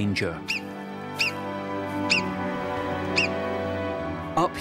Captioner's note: marmot calls